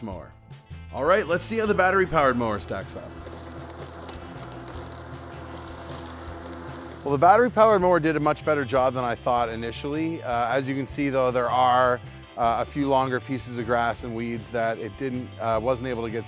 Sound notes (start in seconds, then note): 0.0 lawnmower sound; 3.7 lawnmower sound